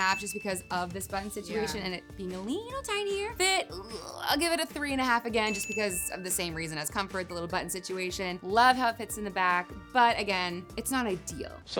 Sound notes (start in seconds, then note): 0.0 bell dinging; 5.4 bell dinging